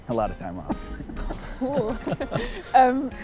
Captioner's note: meaningless laughter